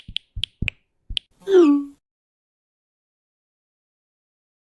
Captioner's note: text sounds